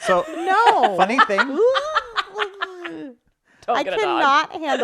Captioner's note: laughing; disgusted sound